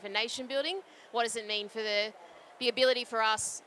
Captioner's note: background chatter